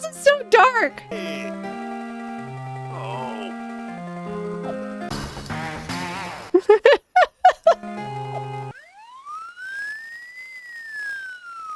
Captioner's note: video game noises: npc dismay, police siren; laughing